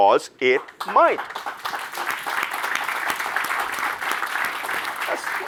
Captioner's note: audience applauds